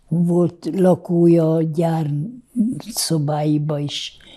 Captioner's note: none